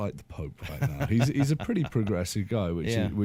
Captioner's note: laughter